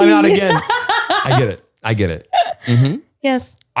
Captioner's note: laughs